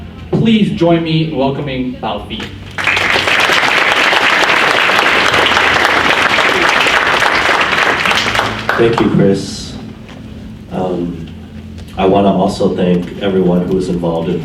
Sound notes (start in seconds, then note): 2.6 audience applauds